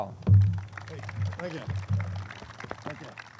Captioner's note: audience claps